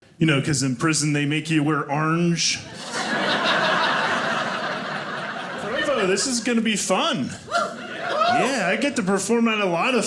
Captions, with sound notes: this is going to be fun! (audience cheering) Yeah, I get to perform at a lot of fun